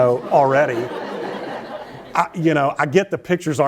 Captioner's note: laughter